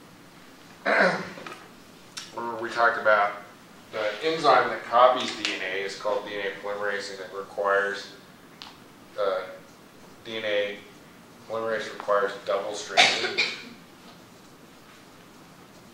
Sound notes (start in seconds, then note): 12.9 cough